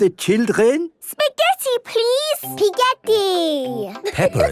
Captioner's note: laughing